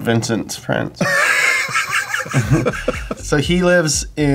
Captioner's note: laughs